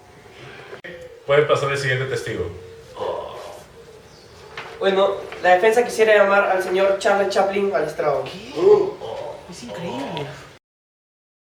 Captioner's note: surprise whispers